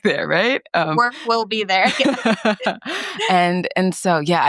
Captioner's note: both laughs